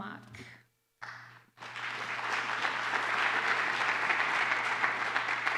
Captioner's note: applause